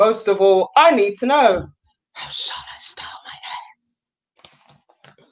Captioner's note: whispers